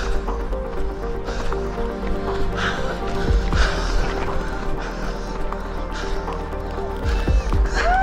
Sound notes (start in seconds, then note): 4.6 people cheering